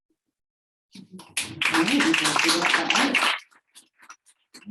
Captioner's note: audience applauding